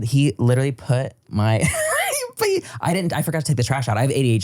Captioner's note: laughs